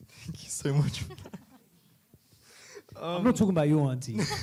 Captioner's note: laughing